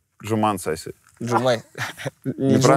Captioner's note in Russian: смеется